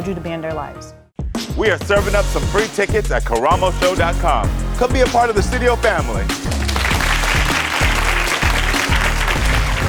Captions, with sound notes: to be in their lives? - We are serving up some free tickets at karamoshow.com. Come be a part of the studio family. (applause)